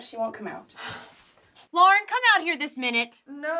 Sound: sighs

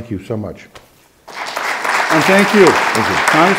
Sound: audience clapping

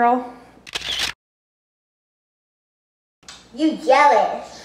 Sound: camera shutter

